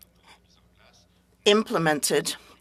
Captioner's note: speaking French